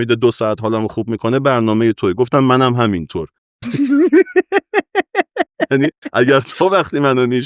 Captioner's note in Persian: خنده